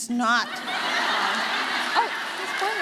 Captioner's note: audience laughing